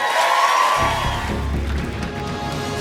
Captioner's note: cheers and applause